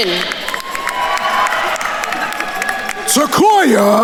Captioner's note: attendees cheering and applauding